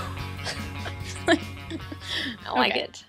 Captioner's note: laughs